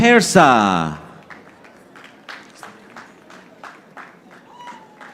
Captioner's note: audience applauding